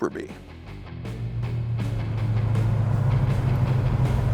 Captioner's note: engine whirring